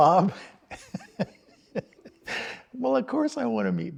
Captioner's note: chuckles